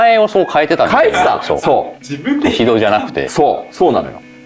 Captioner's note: laughs